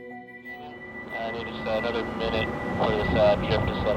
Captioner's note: radio